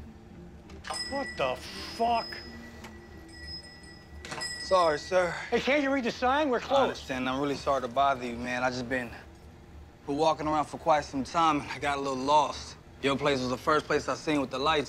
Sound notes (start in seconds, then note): 3.0 bell jingles